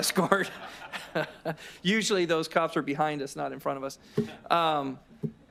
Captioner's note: laughter